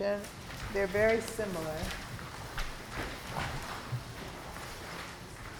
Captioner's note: papers rustling